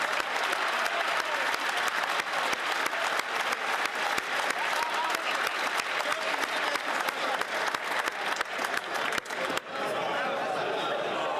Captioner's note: some Applause